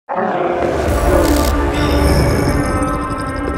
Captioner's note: zombies growling